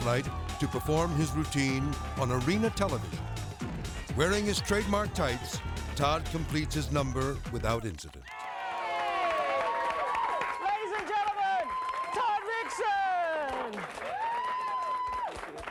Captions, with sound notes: to perform his routine on Arena Television. Wearing his trademark tights, Todd completes his number without incident. (people cheering) - Ladies and gentlemen, Todd Rixon.